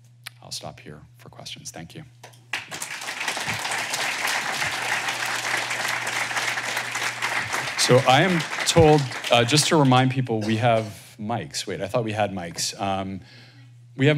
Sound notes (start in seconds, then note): 2.5 applause